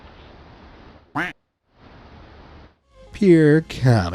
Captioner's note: duck quacks